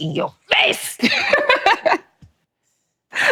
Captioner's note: laughing